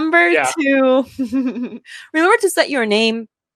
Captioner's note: laughs